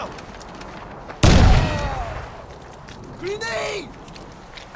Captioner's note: grenade blasts; combatant groans